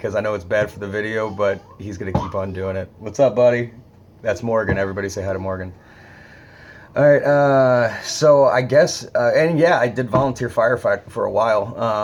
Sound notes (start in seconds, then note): 1.1 child babbling